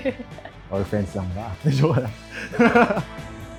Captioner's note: laughs